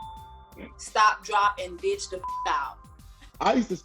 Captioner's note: bell chiming; beep